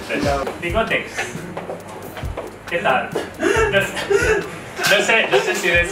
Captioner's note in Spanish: risas